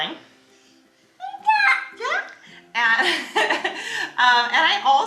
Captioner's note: coos